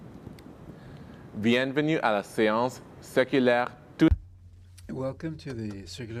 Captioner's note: speaking in French